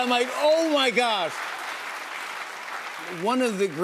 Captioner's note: applause